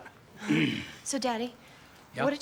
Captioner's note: clears throat